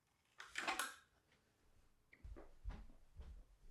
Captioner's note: tool clicking